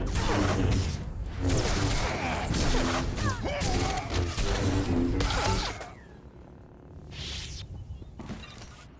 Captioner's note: gunshots